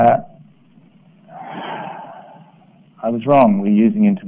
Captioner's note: sighs